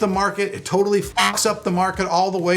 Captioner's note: beep